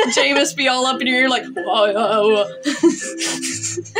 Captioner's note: laugh; chant; laugh; snicker